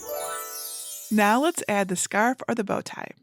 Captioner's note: screen whooshing; bells tinkling